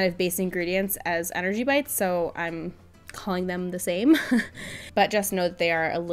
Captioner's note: laughs